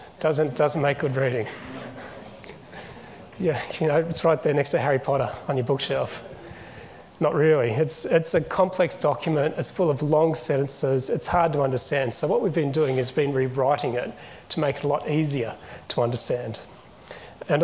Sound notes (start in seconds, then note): 1.3 chuckles